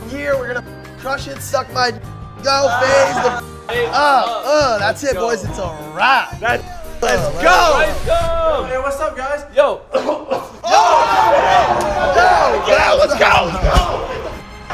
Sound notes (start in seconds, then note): 9.9 coughing; 10.6 screaming